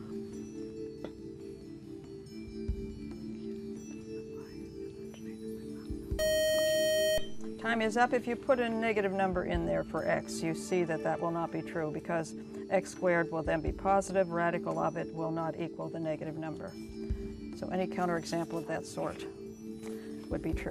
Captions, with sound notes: (buzzer) Time is up, if you put a negative number in there for x, you see that that will not be true because x^2 will then be positive, radical of it will not equal the negative number. So, any counterexample of that sort would be true.